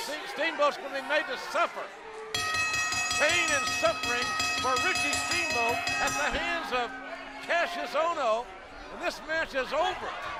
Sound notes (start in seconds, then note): 6.9 bell ringing